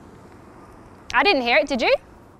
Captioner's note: engine sound